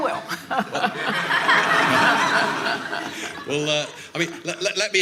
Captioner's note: laughing